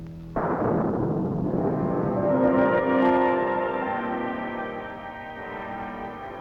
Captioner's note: thunder booms